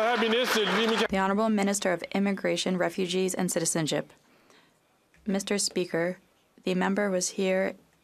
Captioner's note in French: applaudissements